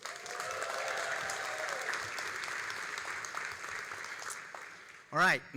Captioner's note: all applauding and cheering